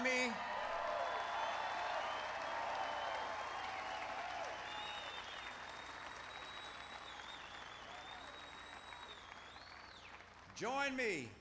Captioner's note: applause